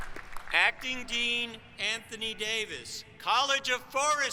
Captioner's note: applause